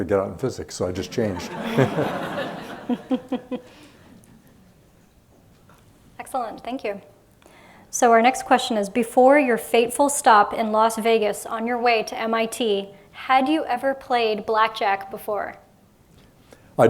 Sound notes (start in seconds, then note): 1.1 laughter